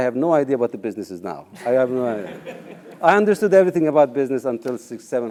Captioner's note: laugh